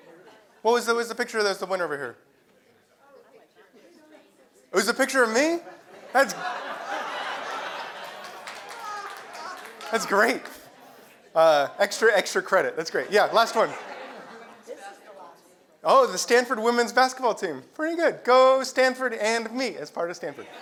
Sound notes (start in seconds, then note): 7.4 applause; 9.4 laugh